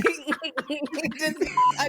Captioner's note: laughter